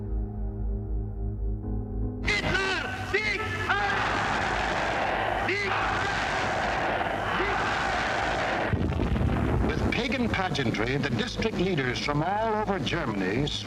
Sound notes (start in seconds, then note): 2.2 announcer shouting in German; 7.5 artillery booming